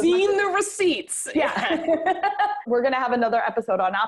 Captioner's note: laughs